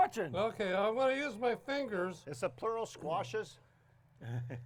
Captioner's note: laughs